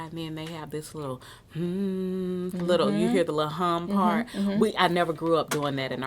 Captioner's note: hum